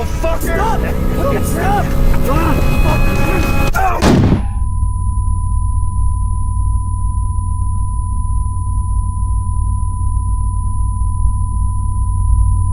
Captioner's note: yelling